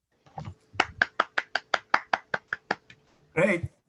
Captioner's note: applause